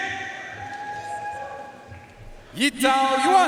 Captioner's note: audience cheering and applauding